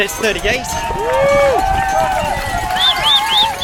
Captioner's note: crowd cheers